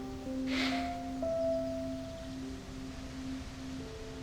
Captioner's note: birds chirping; sentimental music; stranger sighing